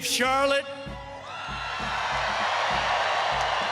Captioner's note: crowd cheering